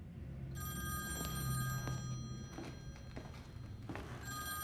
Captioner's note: phone ringing